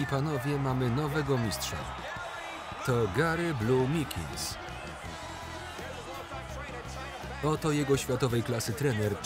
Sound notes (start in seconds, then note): 3.4 audience cheering